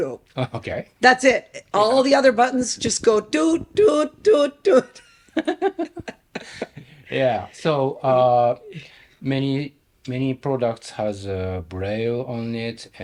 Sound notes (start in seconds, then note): 4.9 both laughing